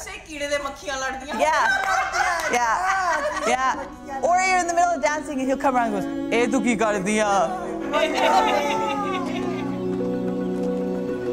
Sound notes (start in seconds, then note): 1.5 laughter; 1.6 continues in Punjabi; 8.0 laughter